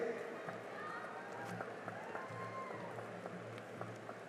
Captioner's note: cheering and applause